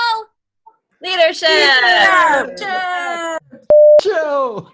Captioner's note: overlapping chattering